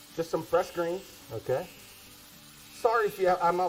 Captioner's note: smoke detector beeping